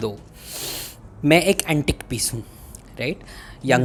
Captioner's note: breathes in